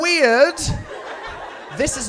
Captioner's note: audience laughs